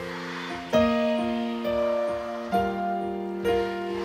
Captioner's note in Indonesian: oooow